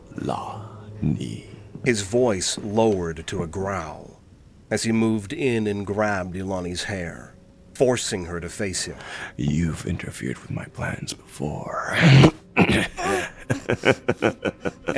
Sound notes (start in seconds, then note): 0.0 footsteps; 12.5 Vullian grunts and laughs, grab sound, Ilani grunts